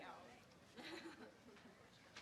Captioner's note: laugh